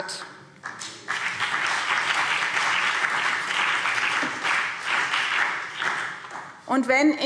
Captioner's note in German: Beifall BÜNDNIS 90/DIE GRÜNEN und CDU